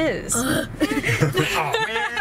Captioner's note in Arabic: يضحك